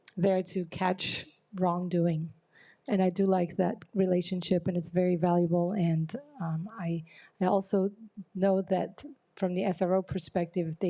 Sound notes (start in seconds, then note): none